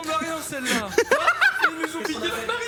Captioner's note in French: rires